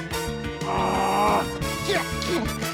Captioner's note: grunts; strains